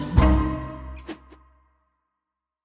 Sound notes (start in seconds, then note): 1.0 mouse squeaks